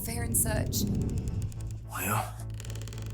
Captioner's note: low rumbling growl